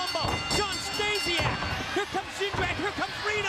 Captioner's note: bell rings